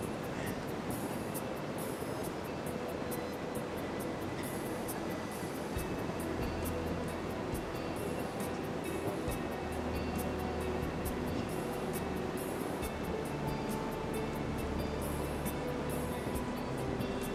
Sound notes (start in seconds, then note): 0.3 upbeat instrumental music; 5.2 laughs